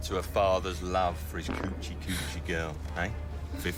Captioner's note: men farting